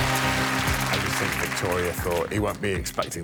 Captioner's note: applause